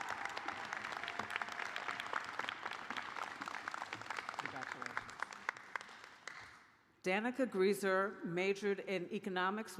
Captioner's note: cheers and applause